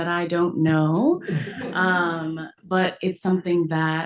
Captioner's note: audience laughs